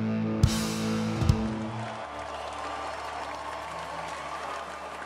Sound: audience cheers and applauds

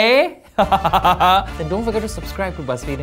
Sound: laughs

